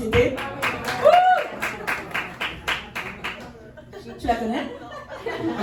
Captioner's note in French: Applaudissements